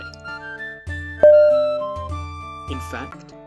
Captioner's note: ding!!!